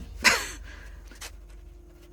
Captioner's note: laughs